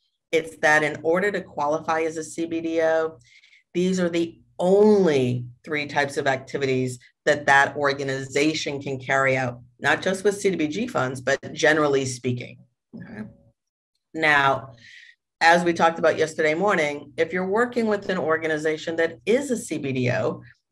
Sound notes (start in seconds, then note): none